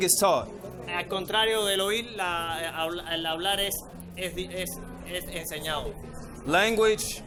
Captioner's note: interpreter speaking in foreign language